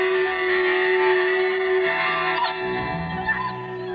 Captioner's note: whimpers